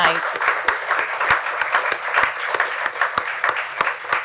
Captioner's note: applause